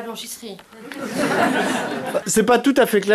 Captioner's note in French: rires